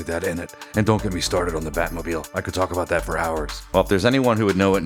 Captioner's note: Deep Batman voice